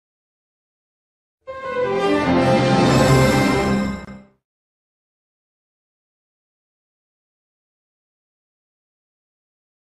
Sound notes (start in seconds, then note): 1.4 orchestral music playing; 5.4 silence